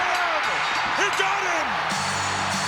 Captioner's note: bell ringing; hard rock music